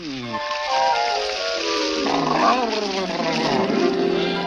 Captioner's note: water splashes